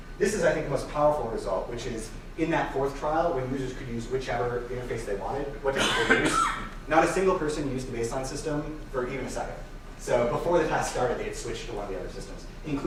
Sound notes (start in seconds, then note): 5.8 audience member coughing